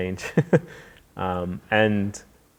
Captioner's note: laughing